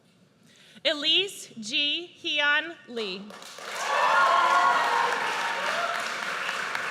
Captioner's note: audience cheers